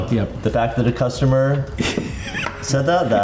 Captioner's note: laughs